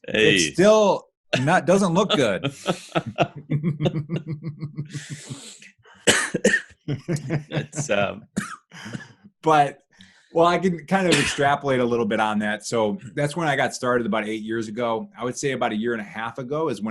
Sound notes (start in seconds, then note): 1.3 both laughing; 6.0 coughing